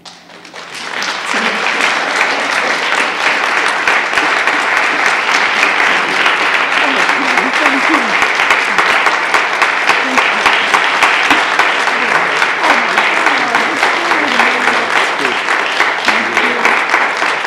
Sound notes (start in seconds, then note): 5.4 applause